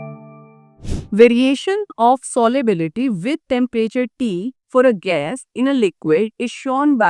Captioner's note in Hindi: नाक से की जाने वाली आवाज़